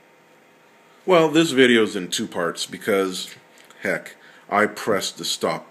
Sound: voiceover

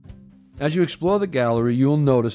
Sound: voiceover

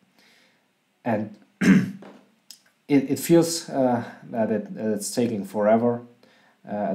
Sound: cough

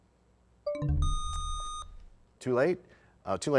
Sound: bell chimes, time expires; buzzer sound

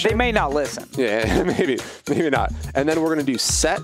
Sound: laughs

